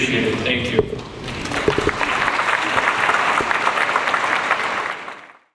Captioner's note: audience applauds